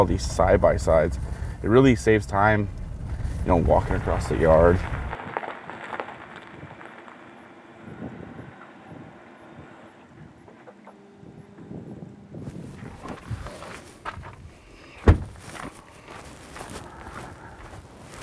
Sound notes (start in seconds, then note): 5.4 truck pulling over; 14.9 truck door closes